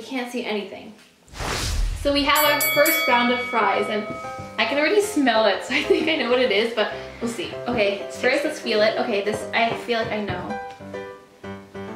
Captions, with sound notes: so we can't see anything. (whooshing) - So, we have our (dinging) first round of fries and I can already smell it, so, I think I know what it is. But, we'll see. - Okay, straight up, let's feel it. Okay, this, I feel like I know.